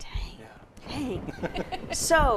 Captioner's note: laugh